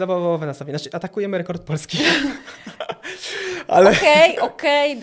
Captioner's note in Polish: śmiech